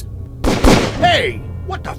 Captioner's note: pow-pow